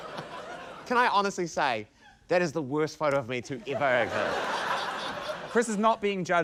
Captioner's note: laughter; laughter